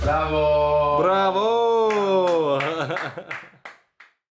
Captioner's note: laughs; audience clapping